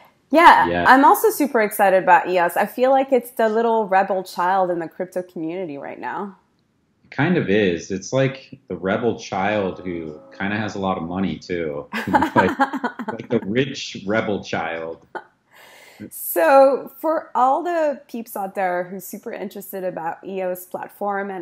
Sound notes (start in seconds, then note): 11.9 laughing